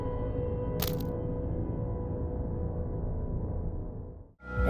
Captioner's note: light clicking